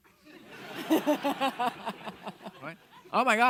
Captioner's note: audience laughing